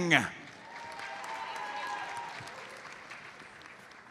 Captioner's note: audience applauds